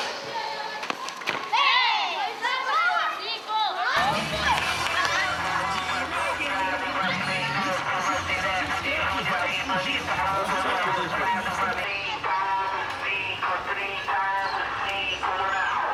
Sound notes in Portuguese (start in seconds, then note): 0.9 Bola sendo chutada, vozes das crianças no jogo; 4.9 Voz no megafone comercial, som ambiente de rua